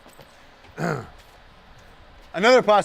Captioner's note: clears throat